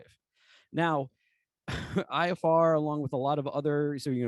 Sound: laughter

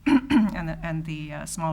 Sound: clears throat

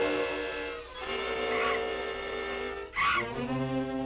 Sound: bat shrieks

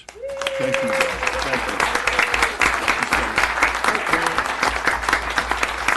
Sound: applause

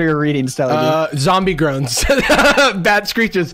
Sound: laughs

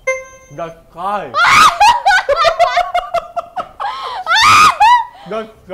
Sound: laughs

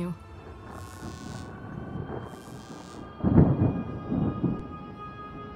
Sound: sirens and electricity; dreamy electronic music

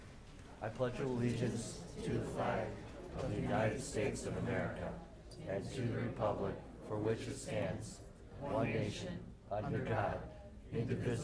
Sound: reciting the pledge of allegiance

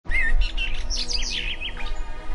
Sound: birdsong

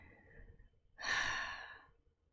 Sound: sighs

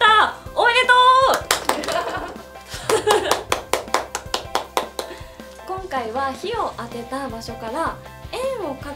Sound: applause

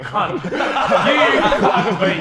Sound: Sidemen laughing

